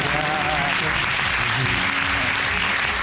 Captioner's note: audience cheering and applauding